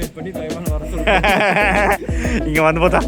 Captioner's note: evil Laugh